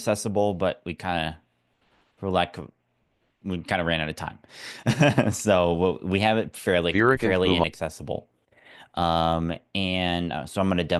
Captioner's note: laugh